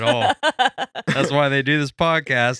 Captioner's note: laughing